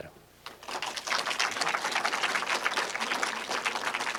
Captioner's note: applause